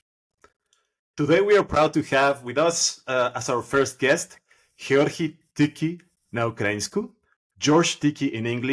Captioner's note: in Ukrainian